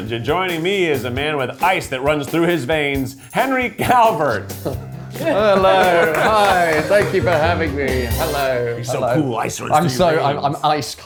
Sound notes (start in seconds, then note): 5.2 laughing